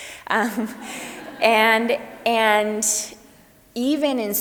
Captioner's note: audience laughs